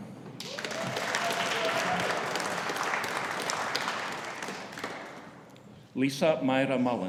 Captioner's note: audience cheering; audience applauding